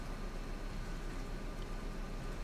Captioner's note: none